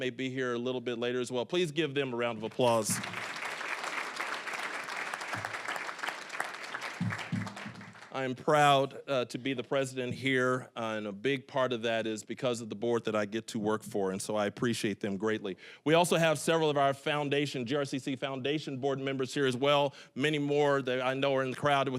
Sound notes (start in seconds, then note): 2.3 applause